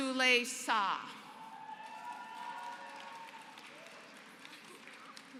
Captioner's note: applause